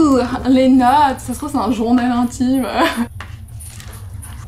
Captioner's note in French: rire